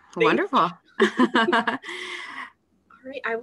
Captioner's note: laughter